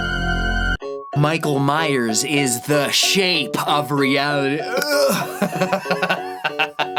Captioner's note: burp